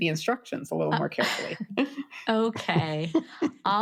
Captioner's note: laughs; laugh